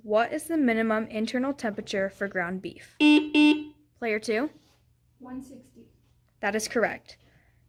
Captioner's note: buzzer sound